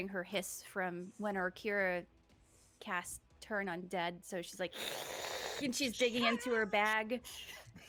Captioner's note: hisses